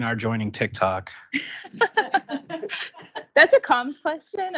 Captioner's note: laughing